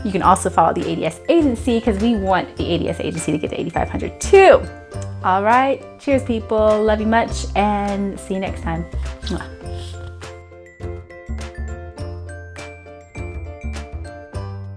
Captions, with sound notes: You can also follow the ADS Agency 'cause we want the ADS Agency to hit 8500 too. All right, cheers people. Love you much and see you next time. (chiming bells)